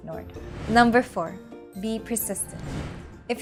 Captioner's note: text bubble whooshing